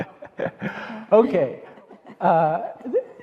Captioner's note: laughing